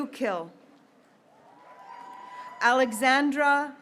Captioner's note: graduates cheering